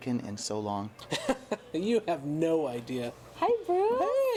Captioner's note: laughs